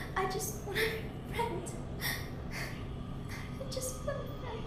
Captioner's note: sobbing